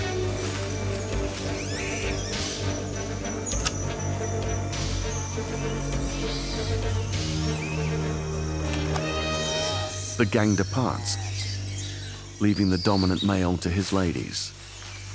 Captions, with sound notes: [screeches] The gang departs, leaving the dominant male to his ladies.